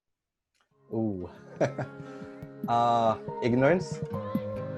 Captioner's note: laughs